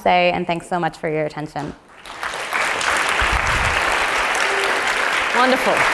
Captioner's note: applause